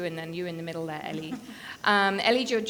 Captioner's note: person giggling